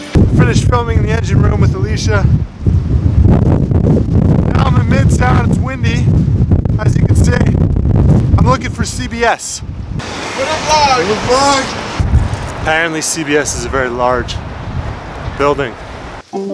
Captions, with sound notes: - I finished filming The Engine Room with Alicia. Now, I'm in Midtown. It's windy, as you can see. I'm looking for CBS. (Men yelling) Apparently, CBS is a very large building.